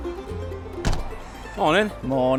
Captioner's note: door slams